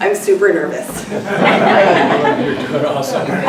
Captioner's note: laughter